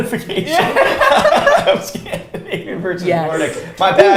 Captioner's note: both laughs